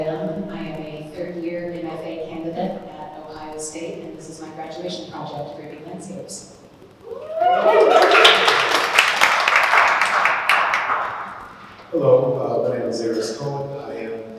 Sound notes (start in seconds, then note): 7.3 applause